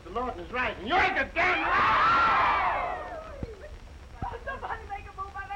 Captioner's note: all shouting